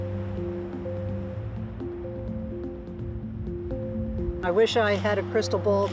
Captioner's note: calm music; waves crashing